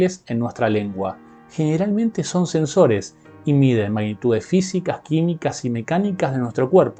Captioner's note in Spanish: español